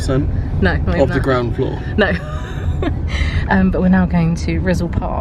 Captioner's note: laughs